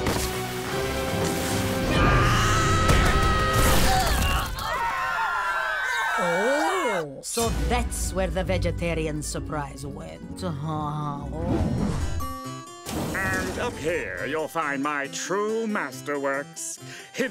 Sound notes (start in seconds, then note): 1.9 screaming